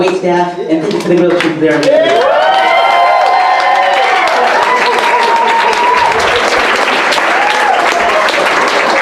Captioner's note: audience cheers